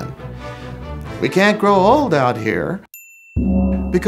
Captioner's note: gong !!!